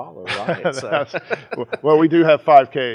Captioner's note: laughs